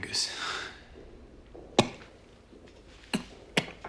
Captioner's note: coughing